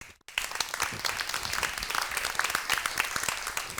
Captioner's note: applause